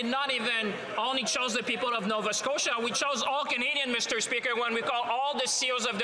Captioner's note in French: voix de l'interprète